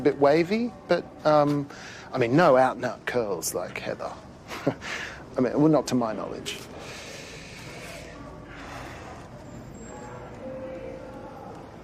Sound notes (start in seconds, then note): 4.4 laughs; 6.8 sighs